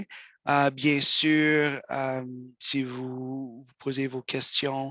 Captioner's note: speaks in French